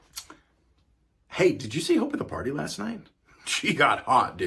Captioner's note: American accent